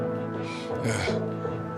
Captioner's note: sighs